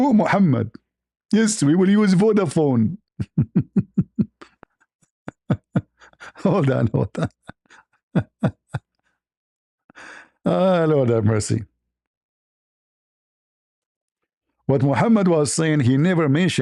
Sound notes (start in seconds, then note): 5.2 ketawa